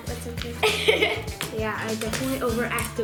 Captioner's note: laughter